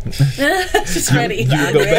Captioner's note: group laughing